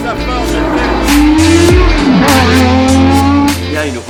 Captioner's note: engine roaring